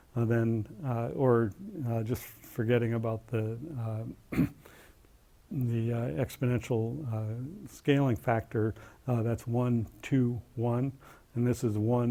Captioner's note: cough